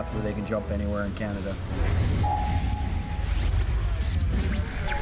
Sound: voiceover

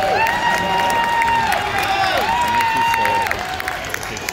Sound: cheering and clapping from the crowd

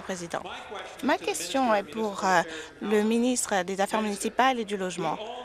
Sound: some Applause

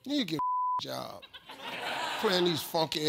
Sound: beep; audience laughs

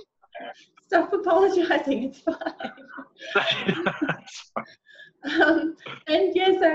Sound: laughing

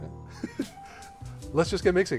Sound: laughs

